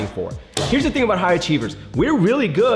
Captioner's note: hand smacking